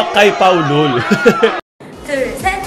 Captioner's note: laugh